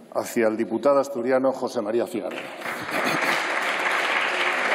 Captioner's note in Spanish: Aplausos